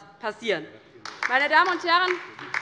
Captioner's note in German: Beifall bei der LINKEN